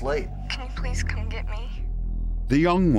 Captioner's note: on phone